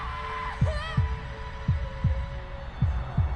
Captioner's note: Sally screaming